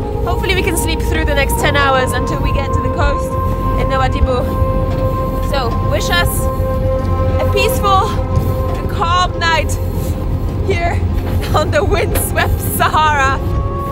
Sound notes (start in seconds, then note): 11.4 chuckles